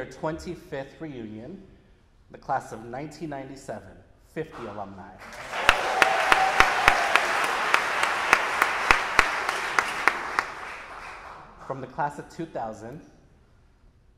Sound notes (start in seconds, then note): 5.2 audience applauding